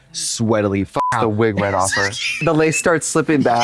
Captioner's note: beep